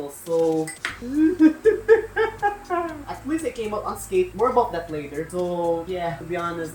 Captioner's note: laughing crying